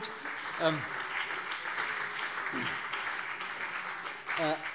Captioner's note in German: Beifall CDU und BÜNDNIS 90/DIE GRÜNEN